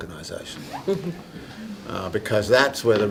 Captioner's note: audience laughing